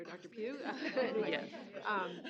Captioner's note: laughter